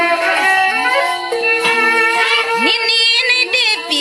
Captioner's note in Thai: ปรบมือ